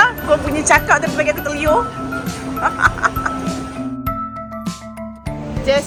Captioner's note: laugh